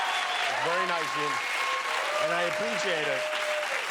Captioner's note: cheers and applause